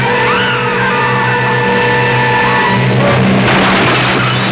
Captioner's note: Sue screaming; car crushing